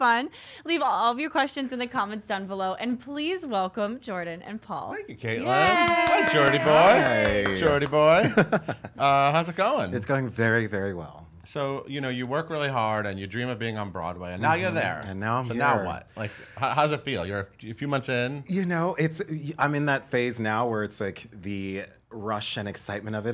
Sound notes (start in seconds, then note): 5.4 cheering; 8.1 laughter